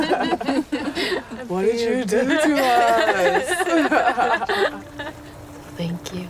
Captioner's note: laughing